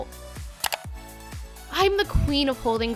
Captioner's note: clicking